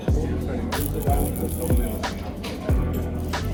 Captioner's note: crunchy